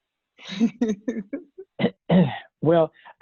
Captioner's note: laughs